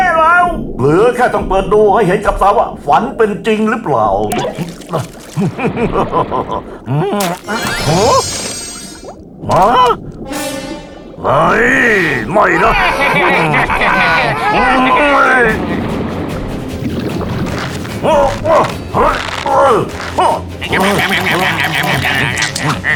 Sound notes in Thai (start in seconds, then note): 4.2 เสียงดึงจุกก๊อก; 5.0 หัวเราะในคอ; 10.9 คำราม; 12.0 เสียงล้อเลียน; 14.3 คำราม; 20.4 เสียงแทะเชือก